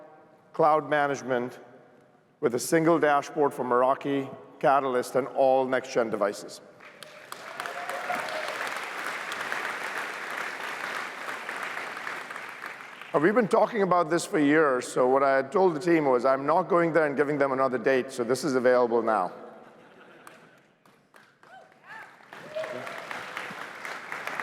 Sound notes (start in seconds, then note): 6.8 cheers, applause; 21.3 cheers, applause